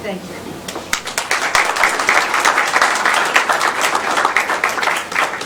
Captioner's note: applause